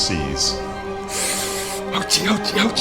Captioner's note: deep breathing in